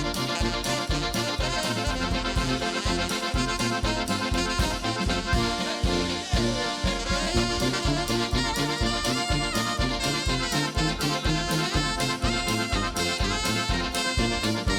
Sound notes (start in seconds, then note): 5.8 shouting out; 7.3 polka music continues